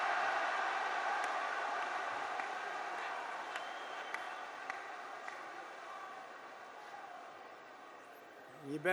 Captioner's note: applause